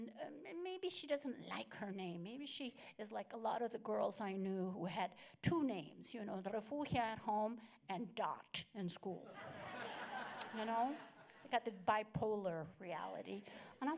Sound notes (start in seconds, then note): 9.3 laughter